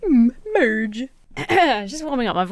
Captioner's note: clears throat